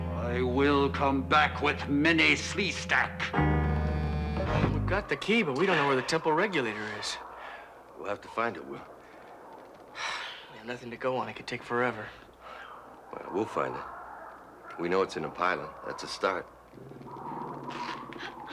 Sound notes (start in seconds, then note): 9.9 sighing